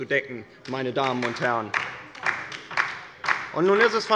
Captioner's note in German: Beifall bei der LINKEN